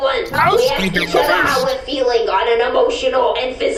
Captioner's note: shouts